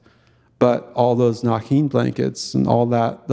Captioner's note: speaking in Tlingit language